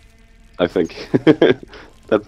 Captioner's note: laughs